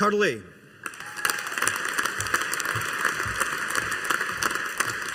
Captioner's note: audience applauding